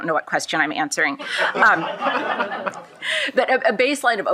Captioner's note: shared laughing